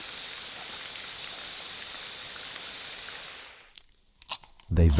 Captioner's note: water splashing